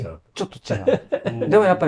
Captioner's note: laughs